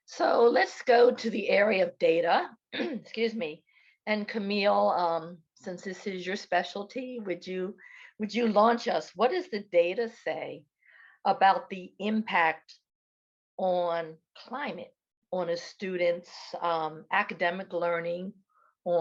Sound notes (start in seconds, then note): 2.7 clears throat